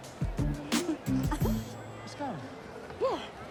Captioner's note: scoffs